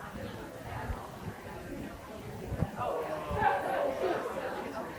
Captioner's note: people chattering continues